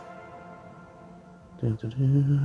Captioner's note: impatient humming